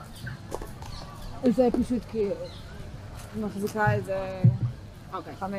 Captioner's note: hebrew